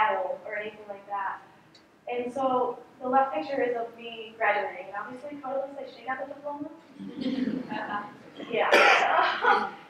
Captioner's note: laughter